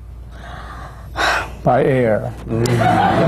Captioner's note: sighs